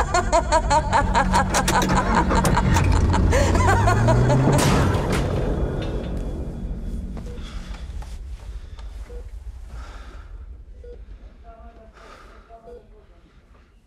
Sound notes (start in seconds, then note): 4.5 thud; 9.7 sighs; 10.4 monitor beeping steadily